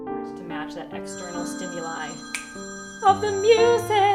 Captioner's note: snaps fingers